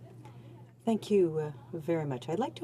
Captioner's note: speaking in French